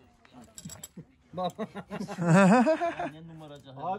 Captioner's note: laughs